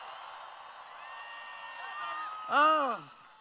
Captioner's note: cheering